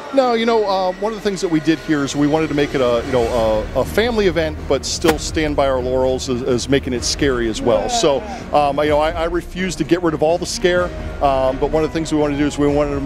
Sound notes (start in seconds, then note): none